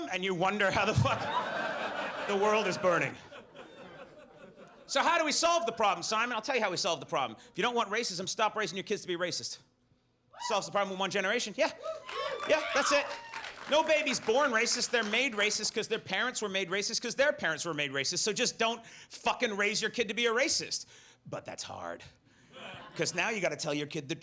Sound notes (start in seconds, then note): 13.6 audience laughs